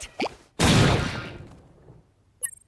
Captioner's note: kablam!